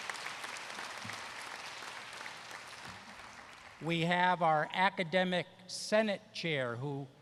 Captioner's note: applause